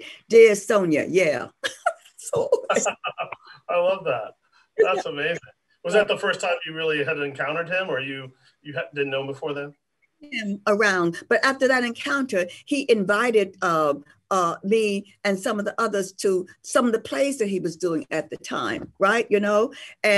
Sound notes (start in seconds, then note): 2.3 laughs